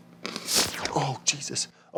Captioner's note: air whooshing